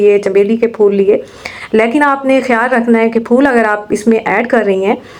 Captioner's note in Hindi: नाक से की जाने वाली आवाज़